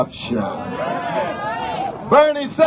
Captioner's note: cheers